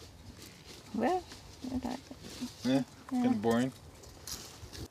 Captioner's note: mutters